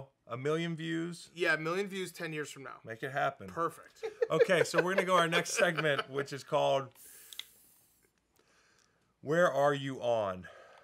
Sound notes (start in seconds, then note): 4.0 Dan laughing